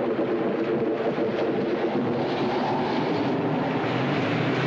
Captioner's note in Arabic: دورات المحرك